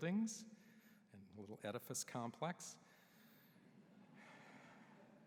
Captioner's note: laughter